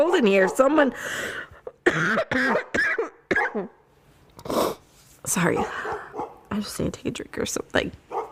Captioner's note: starts coughing and dog barks in the background